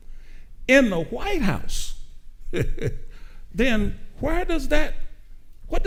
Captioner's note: chuckles